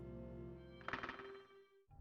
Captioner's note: door unlocks